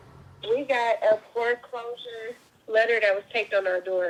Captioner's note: phone Voice